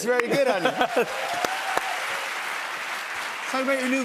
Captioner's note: cheers and applause